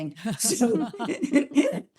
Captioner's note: both laughing